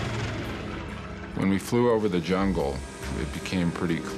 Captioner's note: voiceover